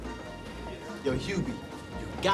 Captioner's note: laughing